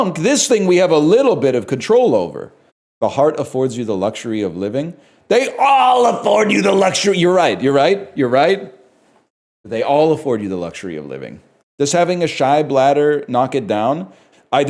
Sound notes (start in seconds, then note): 5.3 irritated; 7.2 calmly